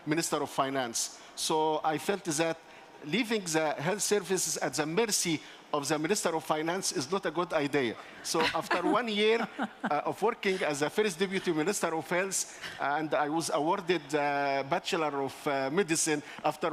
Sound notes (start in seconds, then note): 8.3 laughs